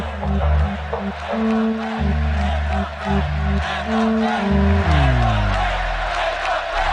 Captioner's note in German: Menge ruft: "Nieder mit der FED"